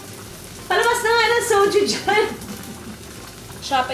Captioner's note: laughs